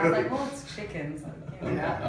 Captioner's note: laughs